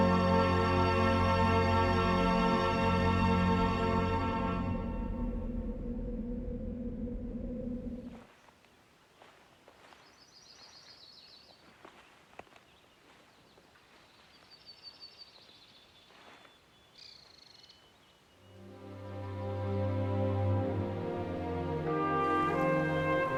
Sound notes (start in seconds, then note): 0.0 soft orchestra music; 5.1 wind; 8.0 crunching leaves and birds chirping; 17.9 birds chirping; 18.4 soft orchestra music